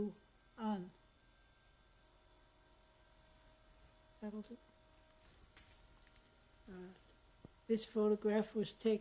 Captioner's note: pauses for 3 seconds